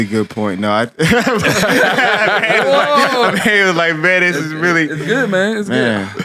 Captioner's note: laughs